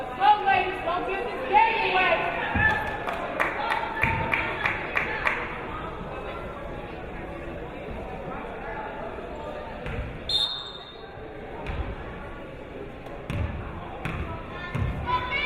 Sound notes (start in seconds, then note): 2.7 clapping; 10.2 whistle blows